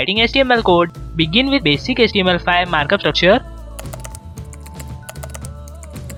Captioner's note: keyboard Typing